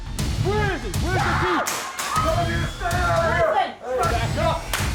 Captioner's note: chaotic yelling and screaming